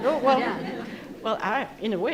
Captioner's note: members of the audience laughing